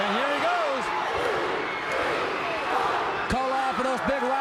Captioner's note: crowd cheering